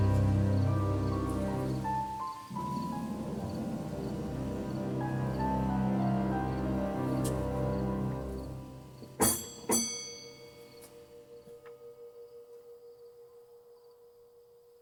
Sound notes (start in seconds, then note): 9.2 bell ringing